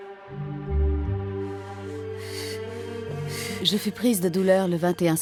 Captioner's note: suspenseful music; Catherine gasping